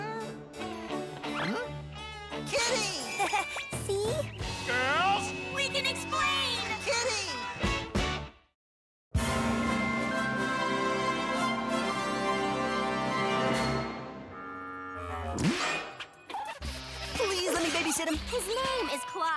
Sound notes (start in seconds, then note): 2.7 laughs nervously